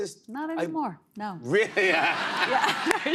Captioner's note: laughter